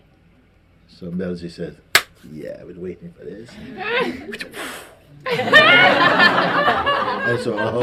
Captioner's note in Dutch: gelach